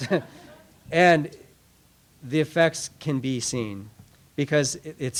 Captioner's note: laughter